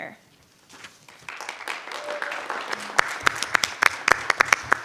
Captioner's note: group applauds